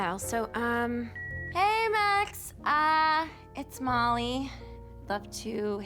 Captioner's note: line beeps